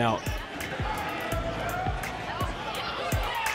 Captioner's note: crowd cheers